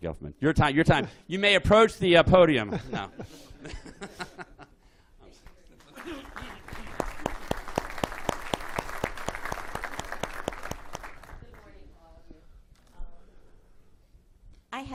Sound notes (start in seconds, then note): 2.6 laughter; 2.8 applause